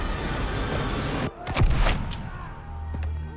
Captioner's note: gunshot cracks